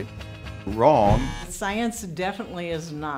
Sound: buzzing sound

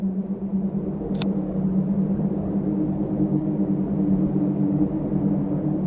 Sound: camera shutter clicking

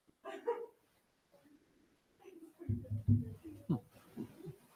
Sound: speaking faintly off mic

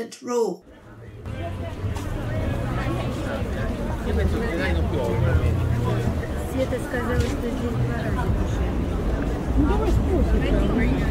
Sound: market sounds

